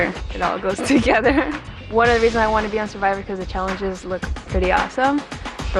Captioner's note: laughs